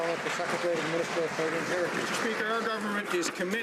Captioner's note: some Applause